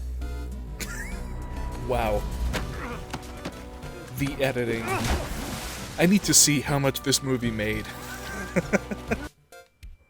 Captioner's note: wheeze; wheezing chuckle